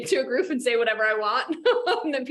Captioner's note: laughs